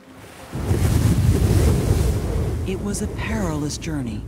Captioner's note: waves crashing